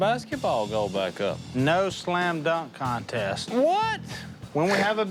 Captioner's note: scoffs